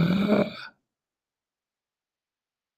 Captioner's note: gasps